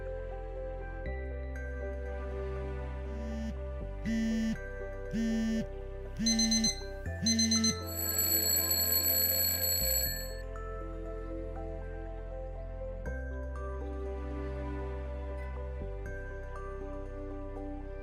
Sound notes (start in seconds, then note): 3.3 phone buzzing; 7.1 alarm blaring; 8.0 alarm ringing; 11.3 thoughtful music